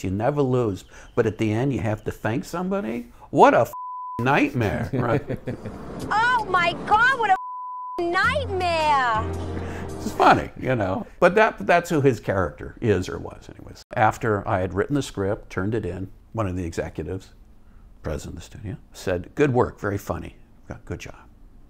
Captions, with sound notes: you never lose, but at the end you have to thank somebody. What a (beep) nightmare. Right? (both laughs) - Oh my God, what a (beep) nightmare? (bright music) - It's funny, you know, but that's who, his character is or was anyways. After I had written the script, turned it in, one of the executives, president of the studio said, "Good work. Very funny, got good job.